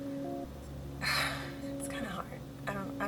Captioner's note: sighs